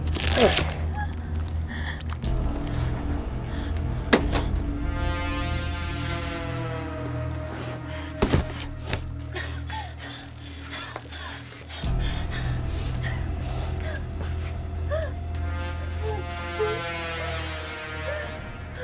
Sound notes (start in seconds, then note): 0.0 blade tearing flesh; 9.5 crying